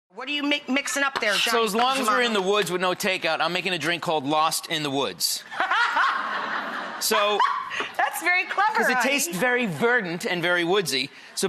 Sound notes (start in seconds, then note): 5.2 laughs; 5.5 audience laughs; 7.2 laughs